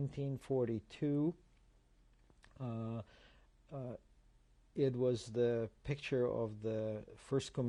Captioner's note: pauses for 3 seconds